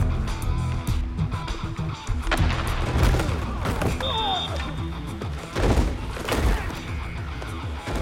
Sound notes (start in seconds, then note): 3.6 grunting; 3.9 whistling